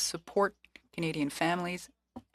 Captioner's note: speaking FRENCH